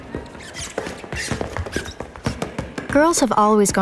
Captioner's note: sports buzzer sounding, ball bouncing; shoes squeaking